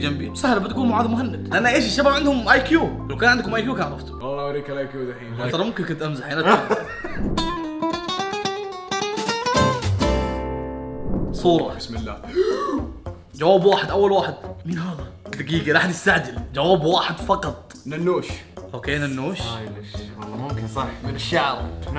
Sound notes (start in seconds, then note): 6.4 laughs; 12.2 gasps